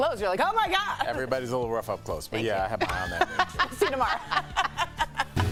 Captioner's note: laughter